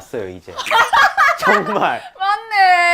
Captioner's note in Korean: 빵 터짐